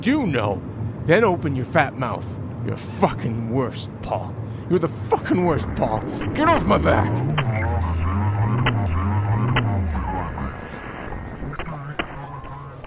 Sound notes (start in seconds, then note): 4.8 the whir and click of the television shutting down